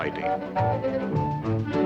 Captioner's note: locomotive whistle blows